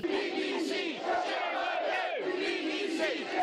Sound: crowd chanting

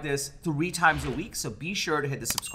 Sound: air whooshing

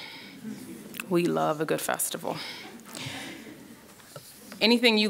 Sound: chuckling

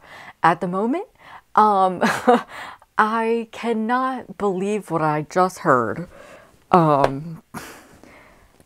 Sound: laughing

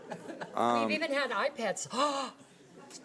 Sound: gasps

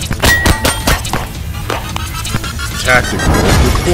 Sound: gunfire popping

